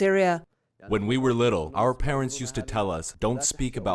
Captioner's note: through translator